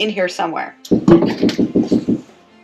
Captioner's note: banging sound from the ceiling